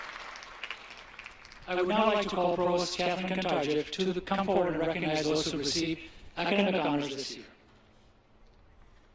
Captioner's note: applause